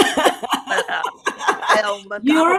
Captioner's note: laughter